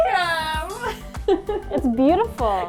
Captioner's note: laughing